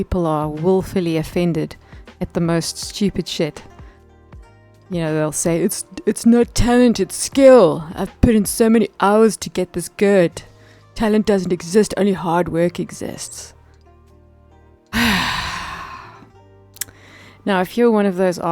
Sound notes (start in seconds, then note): 14.9 long SIgh